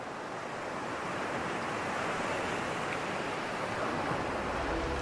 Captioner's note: waves rush and roll